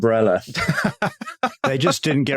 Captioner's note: laughs